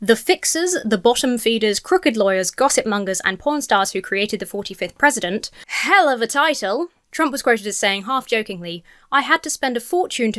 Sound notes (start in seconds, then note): none